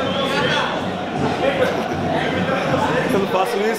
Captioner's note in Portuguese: rindo